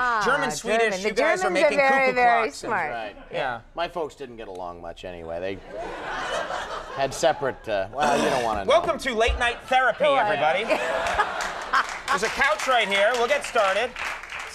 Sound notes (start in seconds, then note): 5.7 audience laughing; 10.5 Kate laughing; 10.7 audience applauding